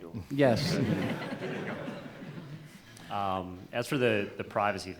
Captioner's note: laughter